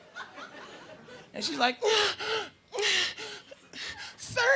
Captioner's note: moans